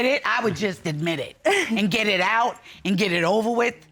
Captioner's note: chuckling